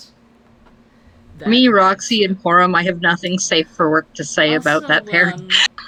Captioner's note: laughs